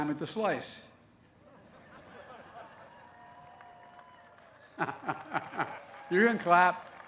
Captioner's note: laughter and applause